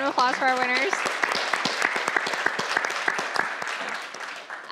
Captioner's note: applause